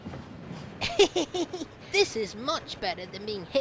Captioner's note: philip chuckles